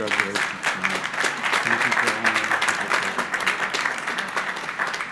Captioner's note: crowd applauding